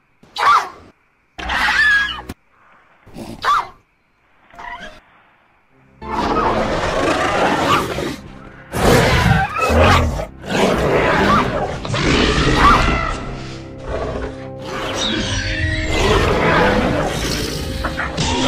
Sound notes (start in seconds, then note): 8.6 carnotaurus Growls; 14.5 Blue Squeals